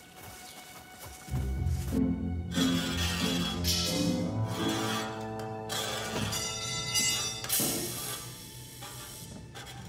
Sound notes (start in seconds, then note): 2.3 creaking metal